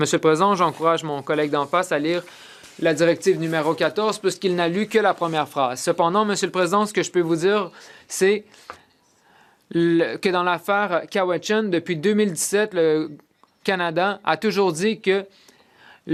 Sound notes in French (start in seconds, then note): 3.0 voix de l'interprète